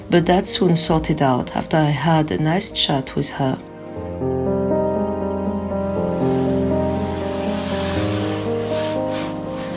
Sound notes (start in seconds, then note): 3.9 soft music; 5.9 water splashing